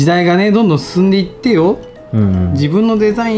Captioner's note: laughs